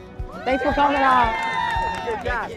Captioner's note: visitors applauding